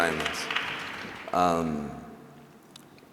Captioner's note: applause